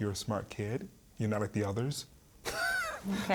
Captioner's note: laughing